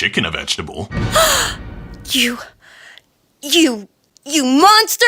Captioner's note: gasp